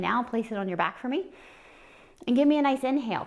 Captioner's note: inhaing